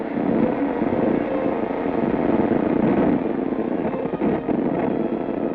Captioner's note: device crackling